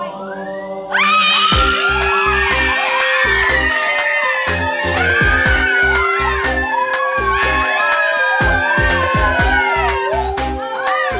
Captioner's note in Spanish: Gritos